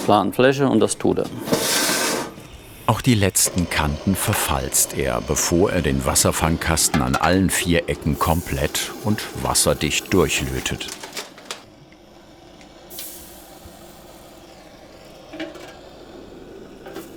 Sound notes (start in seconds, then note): 11.6 hissing sound